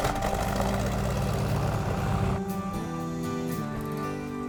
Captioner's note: engines revving